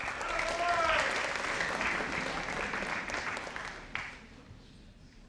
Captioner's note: audience applauding